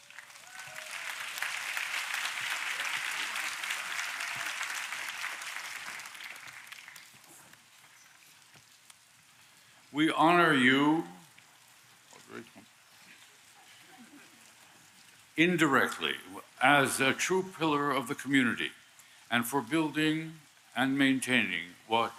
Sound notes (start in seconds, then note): 3.9 applause